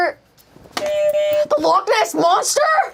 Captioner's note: buzzer honks